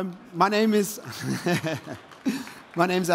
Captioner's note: laughs